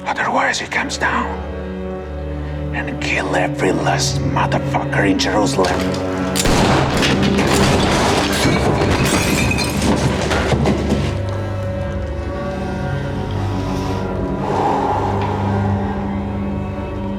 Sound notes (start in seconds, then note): 6.3 gunfire; 13.3 slow exhale